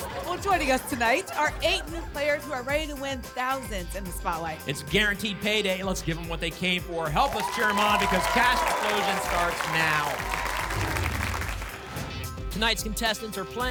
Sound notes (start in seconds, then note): 10.6 whoosh